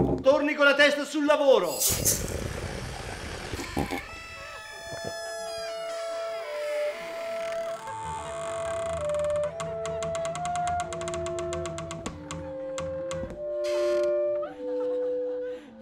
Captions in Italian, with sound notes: Torni con la testa sul lavoro! [ porta che scricchiola, musica misteriosa e risate ]